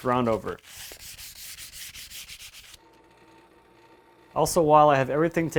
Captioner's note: sandpaper scraping